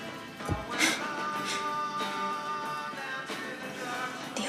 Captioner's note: breathing sharply